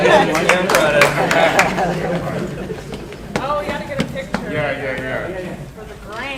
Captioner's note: people laughing; people chattering loudly